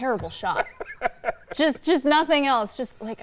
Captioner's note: laughing